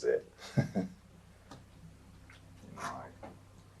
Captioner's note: chuckles